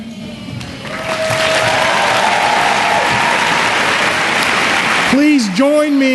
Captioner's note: cheering and Applause